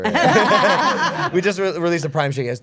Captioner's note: group laughing